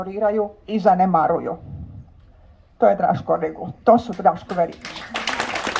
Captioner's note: applause…